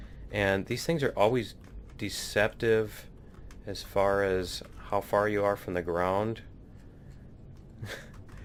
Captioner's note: laughs